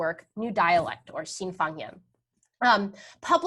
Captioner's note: speaking in a foreign language